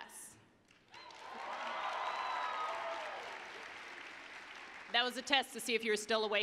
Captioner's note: applause, cheering